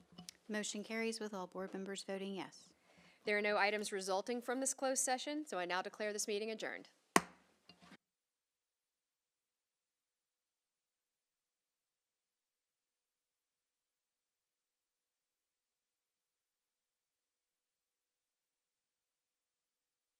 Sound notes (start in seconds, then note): 7.0 gavel hitting dais